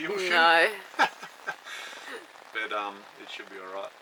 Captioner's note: laughing